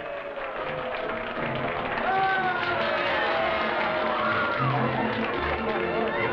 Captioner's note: partygoers cheering and applauding